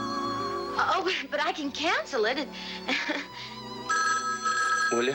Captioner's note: phone ringing